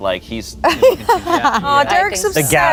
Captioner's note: laughs